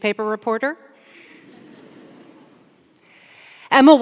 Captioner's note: audience laughs